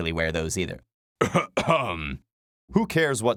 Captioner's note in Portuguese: Tosse